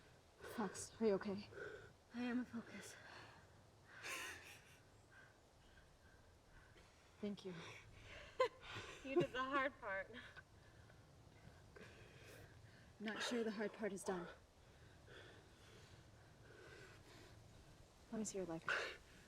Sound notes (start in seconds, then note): 4.0 Oak chuckles; 8.3 laughs